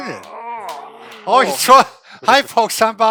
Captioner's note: groans